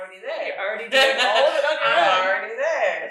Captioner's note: someone laughing